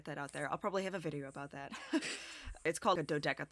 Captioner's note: chuckles